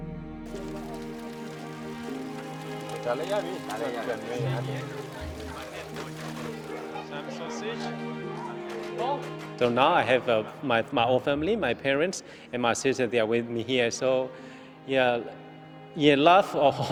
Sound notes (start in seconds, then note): 0.1 hopeful instrumental music; 3.4 speaking in foreign language; 7.0 kids laughing